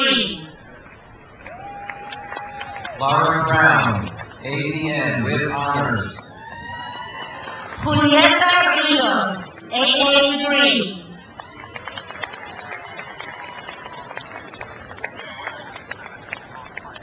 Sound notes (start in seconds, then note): 0.6 crowd cheers; 6.5 crowd applauds; 11.0 crowd applauds